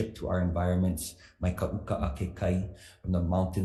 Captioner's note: speaks foreign language